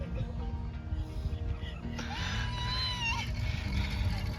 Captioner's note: boiling kettle sound